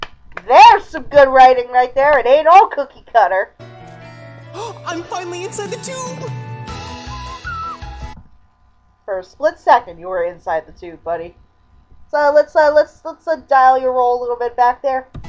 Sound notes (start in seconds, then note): 0.2 clapping; 4.5 gasping; 6.4 whistling to the tune